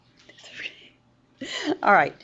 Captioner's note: instructor laughing